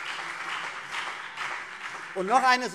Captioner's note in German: Beifall CDU und BÜNDNIS 90/DIE GRÜNEN